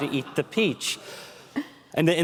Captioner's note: laughter